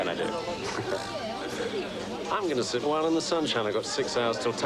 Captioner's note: laughing